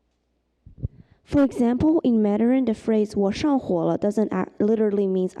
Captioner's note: mandarin